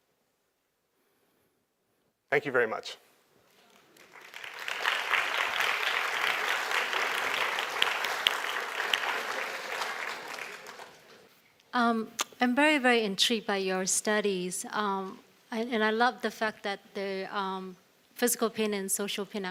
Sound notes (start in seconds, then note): 3.6 audience clapping